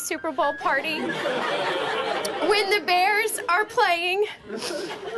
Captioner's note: all laughing